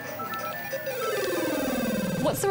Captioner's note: 'game over' notes trill